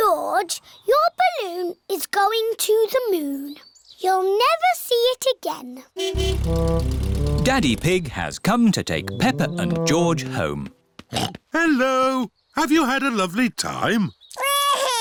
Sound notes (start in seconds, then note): 6.0 horn honking; 11.1 snorts